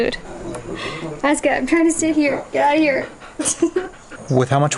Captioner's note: laughs